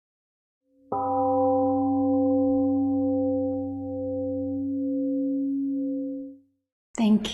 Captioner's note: temple gong rings and fades